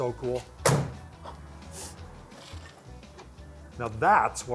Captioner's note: car door slams shut